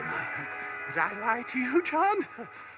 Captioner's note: laughs